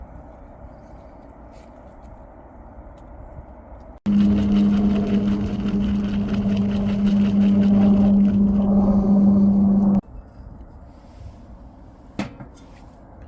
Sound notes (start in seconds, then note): 4.0 helicopter